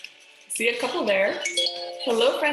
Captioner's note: computer chimes